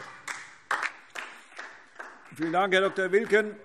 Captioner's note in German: Beifall DIE LINKE